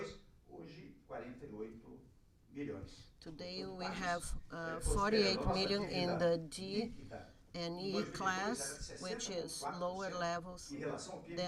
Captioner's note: through translator